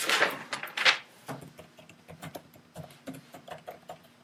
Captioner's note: typing on keys